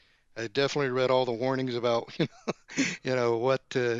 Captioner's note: laughs